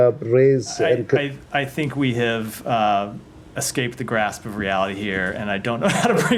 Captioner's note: laughter